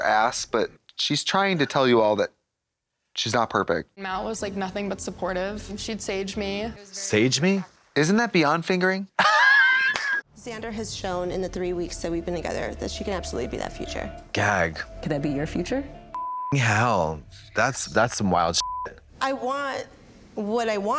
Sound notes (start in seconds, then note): 9.5 Katya puffs; 16.1 beep; 18.6 beep